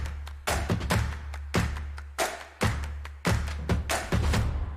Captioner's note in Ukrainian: оплески